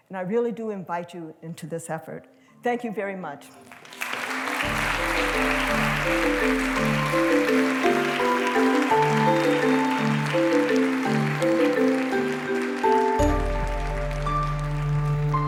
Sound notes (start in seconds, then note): 3.8 applause